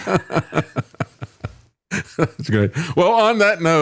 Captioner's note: laughing